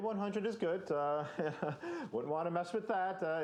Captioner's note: chuckling